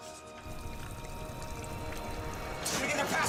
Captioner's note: splashing